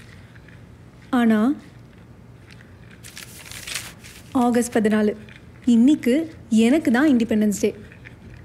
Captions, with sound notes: But… (tearing of calendar sheet) August 14th. Today is my independence day.